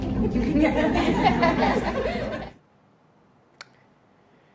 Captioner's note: employees laughing